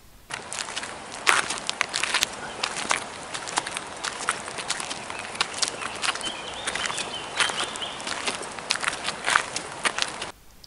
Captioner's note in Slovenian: zvok korakov po makadamu